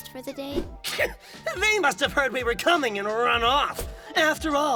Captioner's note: scoffs